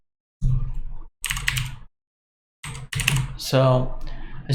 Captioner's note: typing on keyboard